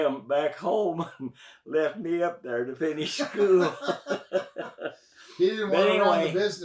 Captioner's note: both laugh